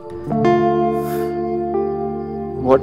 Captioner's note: Sighs